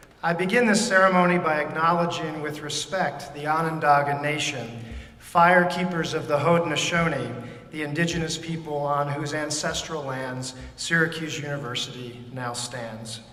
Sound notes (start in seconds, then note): none